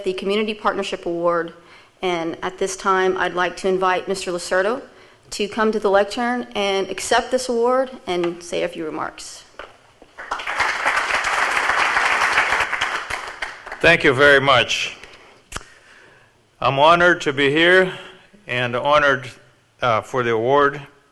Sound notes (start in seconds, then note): 10.1 audience applauds